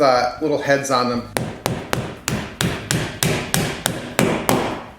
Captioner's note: hammer striking